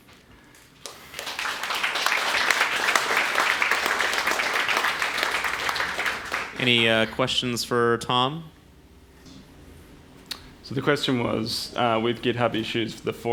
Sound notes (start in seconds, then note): 0.8 audience applause